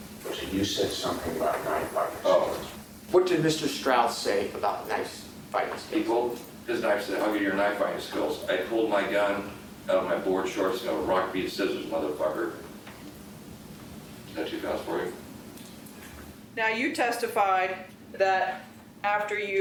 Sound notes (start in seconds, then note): 0.8 pat